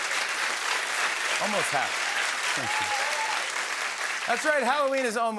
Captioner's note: laughs